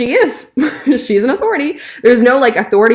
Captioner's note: chuckling